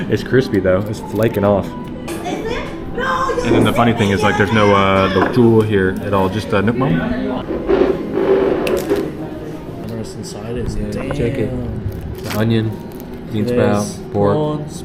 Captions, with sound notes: It's crispy though It's flaking off And then the funny thing is, like, there's no, uh [speaking Vietnamese] here at all, just Nuoc Mam I don’t know what’s inside of this, -Dayum!! -Yeah, check it Onion, -There’s -Bean sprout, -Prawns -Pork